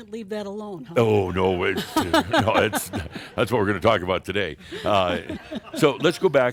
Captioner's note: they chuckle